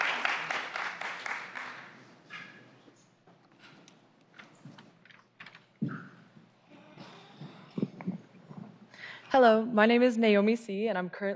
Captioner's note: applause